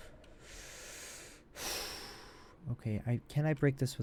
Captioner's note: exhales; inhales sharply